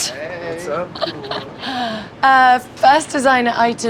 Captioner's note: chuckles